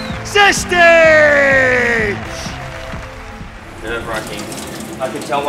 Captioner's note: cheers and applause